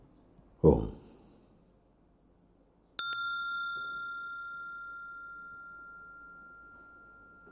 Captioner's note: Mooji rings the bell